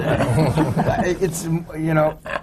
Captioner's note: laughter